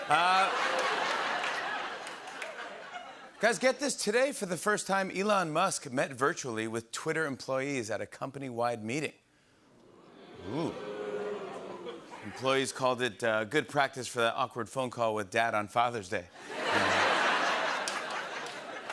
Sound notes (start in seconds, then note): 0.0 laughter; 10.2 audience oohs